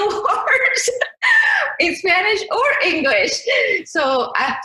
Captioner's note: laughs